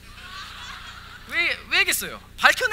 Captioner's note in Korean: 웃음